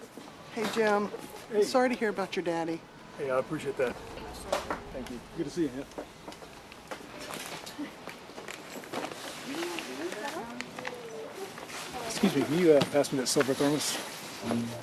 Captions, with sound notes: Hey, Jim. Sorry to hear about your daddy. Hey, I appreciate that. Thank you. Good to see you again. [wrapper paper crinkling] Is that all? Excuse me, can you, uh, pass me that silver thermos?